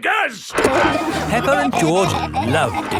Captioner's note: peppa and george laughing